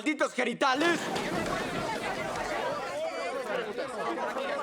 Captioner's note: chatter